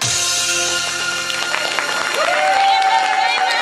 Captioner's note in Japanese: 拍手